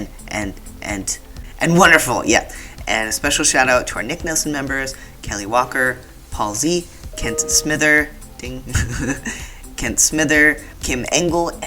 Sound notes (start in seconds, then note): 7.1 Outlook dings; 8.7 laughter